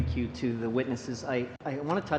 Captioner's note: speaking French